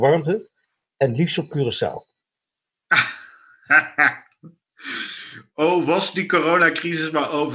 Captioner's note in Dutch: gelach